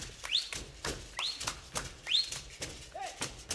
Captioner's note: hands clapping and beads rattling; whistling; hands clapping and beads rattling